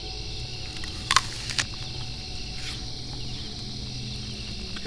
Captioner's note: apple crunching